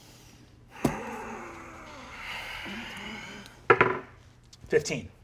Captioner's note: groaning; die rolling